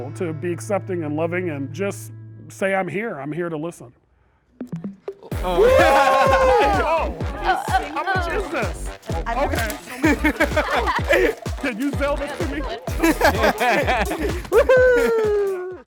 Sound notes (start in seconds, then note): 5.4 everyone cheering; 13.2 everyone laughing